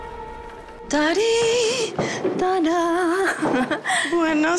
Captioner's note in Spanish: Ángeles tararea